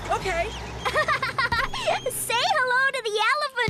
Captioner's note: giggling